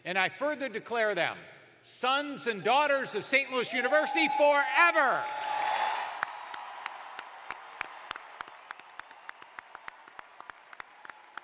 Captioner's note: cheers and applause